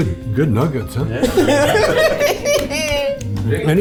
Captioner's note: group laughs